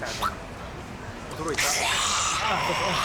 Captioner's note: snarls